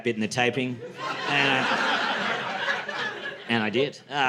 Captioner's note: laughter